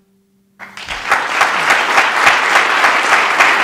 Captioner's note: applause